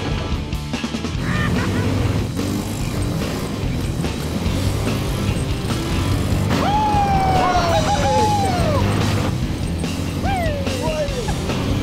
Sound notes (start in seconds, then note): 1.1 laughs; 6.5 cheers